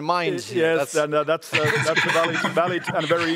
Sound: laughter

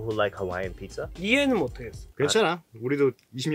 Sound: speaking in Korean

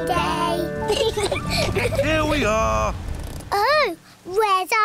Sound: both laugh

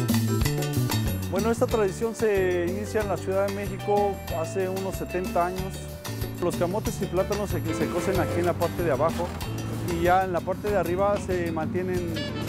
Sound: speaking spanish

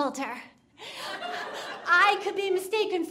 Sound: audience laughing

